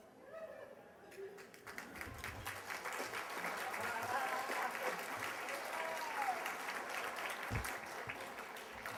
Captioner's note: applause